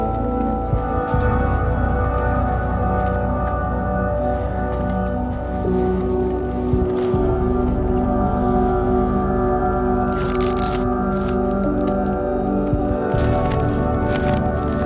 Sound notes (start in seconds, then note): 10.0 ripping; 14.6 rustling